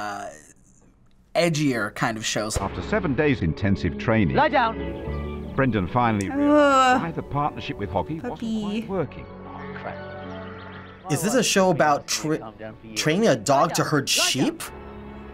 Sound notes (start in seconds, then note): 2.1 voice-over